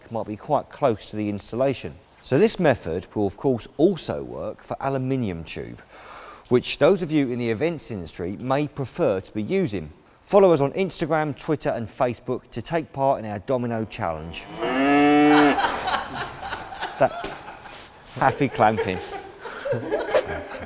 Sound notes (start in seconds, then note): 13.9 cow moo's again